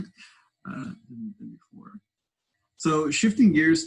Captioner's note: faintly speaking